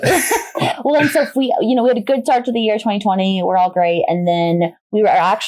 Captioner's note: laughs